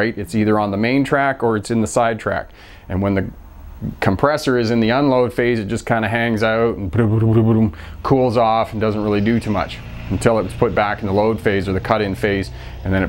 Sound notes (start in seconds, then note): 7.7 compressor hanging out sound